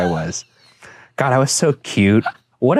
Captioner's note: Shane laughing